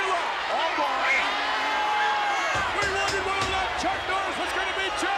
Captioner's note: audience cheers